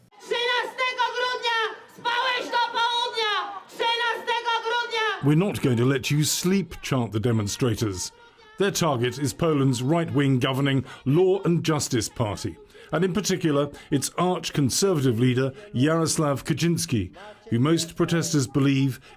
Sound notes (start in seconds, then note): 4.4 crowd chanting in polish